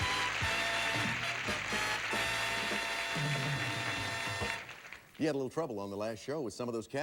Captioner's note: audience applauding